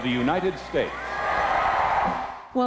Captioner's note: cheering and applause